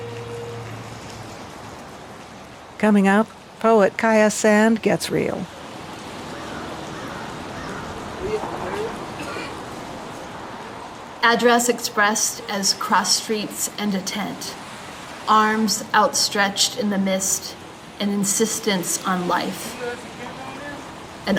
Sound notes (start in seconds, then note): 0.3 rain continues pattering; 5.9 bird cawing; 6.0 people chattering; 6.0 rain pattering; 9.1 people continue chattering; 9.1 rain continues pattering